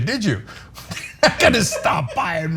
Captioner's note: laugh